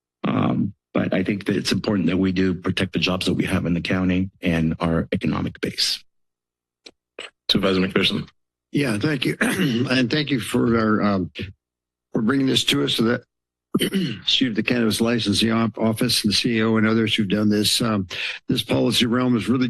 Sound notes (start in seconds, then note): 9.3 clears throat; 13.7 clears throat